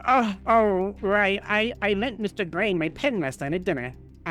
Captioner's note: none